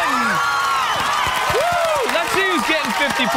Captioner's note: cheering